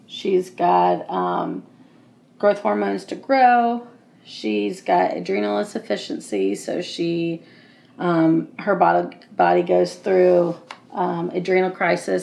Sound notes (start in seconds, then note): none